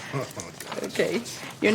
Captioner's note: laughter